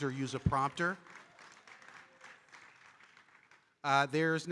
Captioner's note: audience applauding